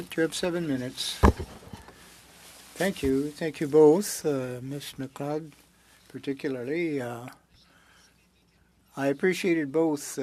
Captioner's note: speaking French